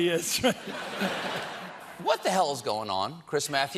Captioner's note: laughter